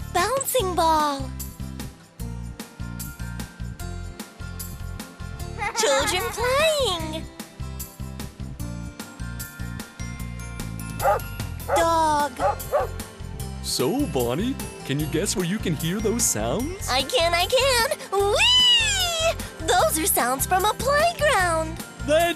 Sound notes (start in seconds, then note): 0.0 bouncing ball makes sound; 3.7 children playing makes sound; 9.3 barking dog makes sound